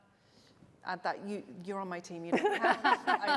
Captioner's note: laughter